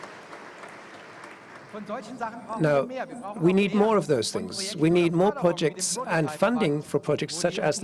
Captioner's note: applause